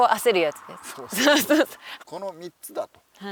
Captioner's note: laughs